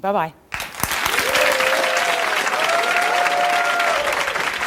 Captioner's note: audience applause